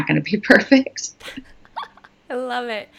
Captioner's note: laughing